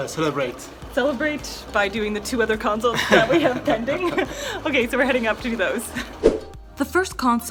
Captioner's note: laughter